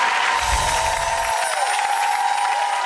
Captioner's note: applause